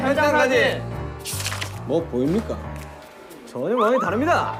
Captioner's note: mysterious footstep